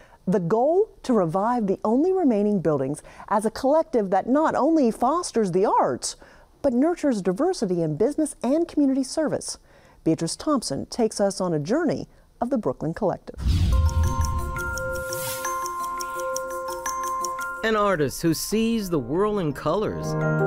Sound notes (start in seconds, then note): 13.4 whoosh